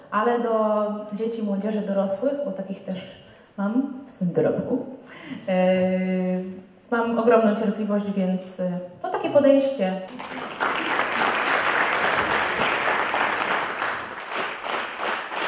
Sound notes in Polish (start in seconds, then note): 10.0 aplauz